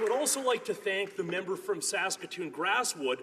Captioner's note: applause